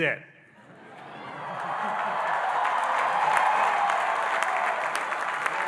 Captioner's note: audience cheering and applauding